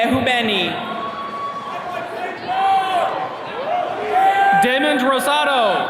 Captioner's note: attendees cheering